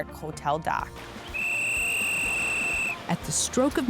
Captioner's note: whisle blows